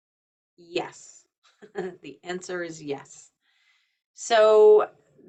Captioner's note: chuckles